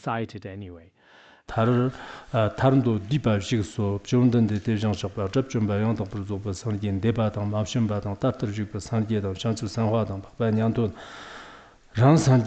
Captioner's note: giving oral transmission in Tibetan